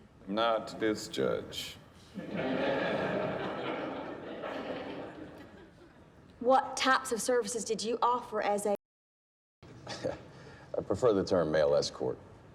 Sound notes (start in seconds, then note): 2.1 laughter; 9.8 chuckles